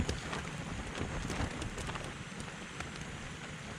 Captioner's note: wind, rain sounds